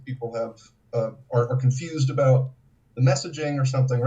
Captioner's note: none